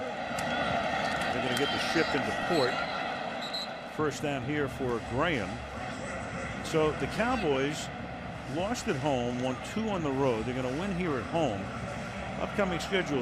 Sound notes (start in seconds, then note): 3.4 whistle; 6.2 pa announcement